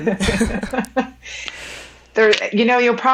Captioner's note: women laughing